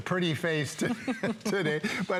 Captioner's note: laughter